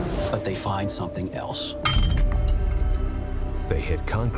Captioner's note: pickaxe clinks